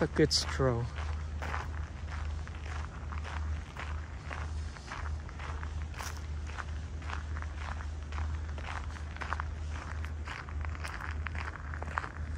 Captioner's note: walking on gravel